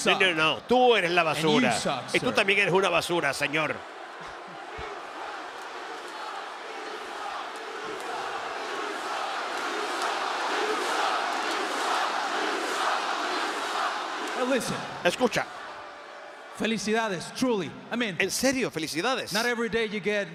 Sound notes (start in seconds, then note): 0.0 applause; 4.6 applause